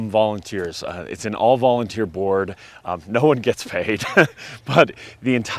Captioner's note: chuckles